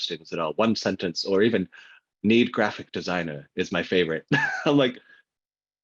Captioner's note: laughs